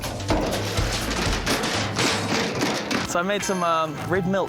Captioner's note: wheelbarrow clangs